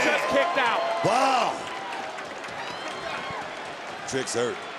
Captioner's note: crowd applauds